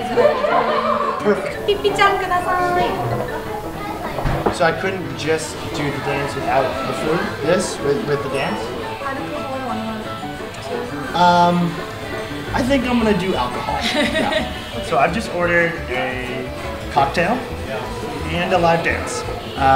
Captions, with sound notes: Perfect! So I couldn't just do the dance without the food? This with the dance? I think I'm going to do alcohol. (laughing) So I just ordered a cocktail and a live dance.